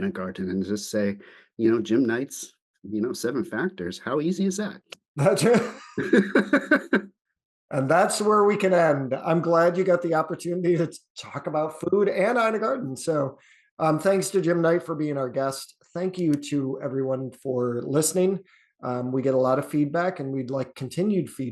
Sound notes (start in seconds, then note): 5.2 laughter